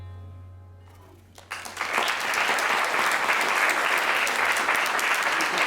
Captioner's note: applause